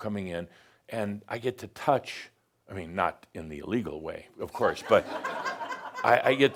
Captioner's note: more chuckles